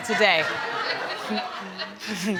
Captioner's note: laughter continues